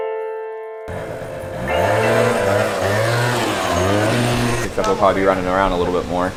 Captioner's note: piano music; engine revving loudly